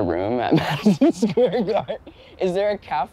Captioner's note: laughing